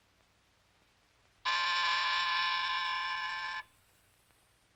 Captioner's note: buzzer buzzes